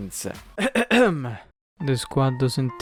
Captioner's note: coughing